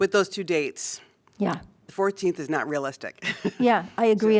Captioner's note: laughter